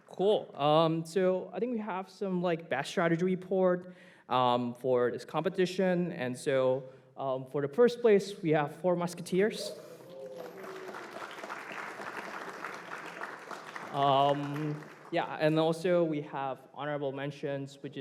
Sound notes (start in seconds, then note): 9.7 applause